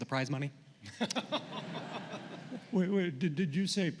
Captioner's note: laughter